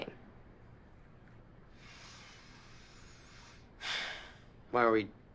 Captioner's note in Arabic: يتنفس بعمق